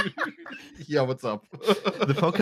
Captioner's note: laughter